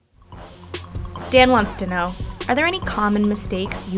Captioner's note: voiceover